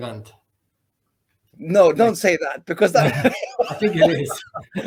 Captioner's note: laughs